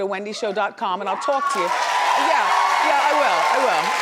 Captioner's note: audience cheering